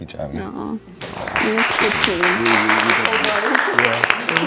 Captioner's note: applause